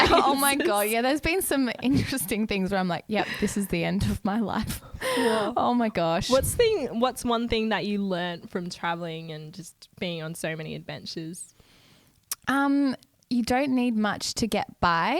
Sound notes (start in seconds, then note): 5.2 laughs